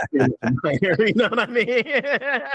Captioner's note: laughing